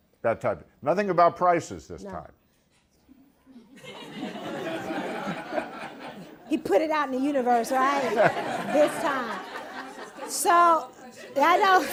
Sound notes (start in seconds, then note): 3.6 laughter